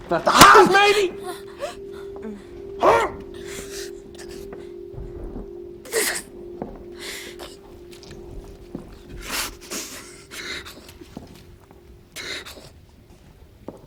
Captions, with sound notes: That's a hot. Maybe. Hmm! [Sniffles] [Sniffles] [Sniffles]